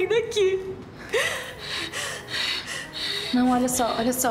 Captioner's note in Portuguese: valentina respirando tensa